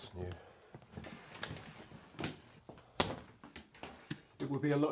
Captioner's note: intercom